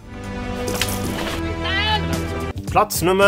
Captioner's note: cry